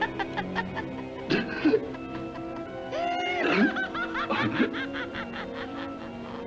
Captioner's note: laughing; gasping